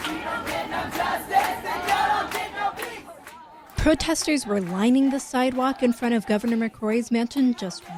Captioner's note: crowd chanting